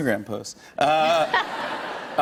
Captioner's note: laughter